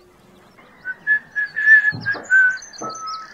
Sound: whistling

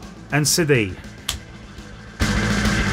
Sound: slap

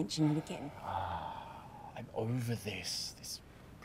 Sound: sighs

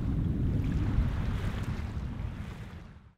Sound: gentle waves

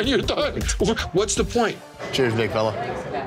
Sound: laughing

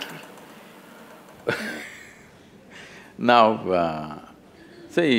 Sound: laughs

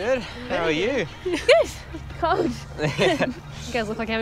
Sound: all laughing

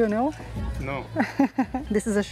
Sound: laughs

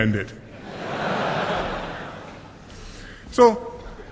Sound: laughter

